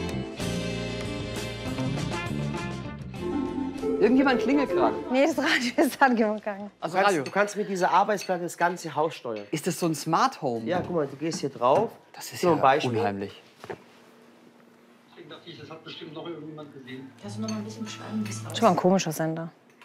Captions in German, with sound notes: Irgendjemand klingelt grade. - Nee, das Radio ist angegangen. Du kannst durch diese Arbeitsplatte das ganze Haus steuern. Ist das ein Smart Home? Guck, du gehst hier drauf. - Unheimlich. (Stimme aus dem Radio) (Entfernte Stimme) Das ist aber komischer Sender.